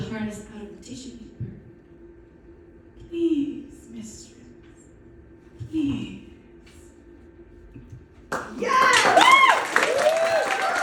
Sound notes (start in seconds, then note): 8.3 applause and audience whooping